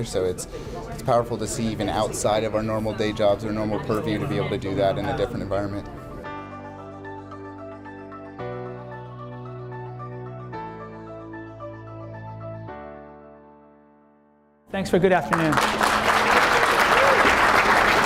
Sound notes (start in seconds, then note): 15.2 clapping!